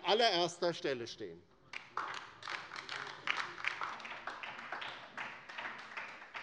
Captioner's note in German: Beifall bei der LINKEN